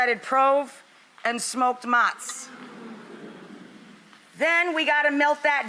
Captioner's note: audience awes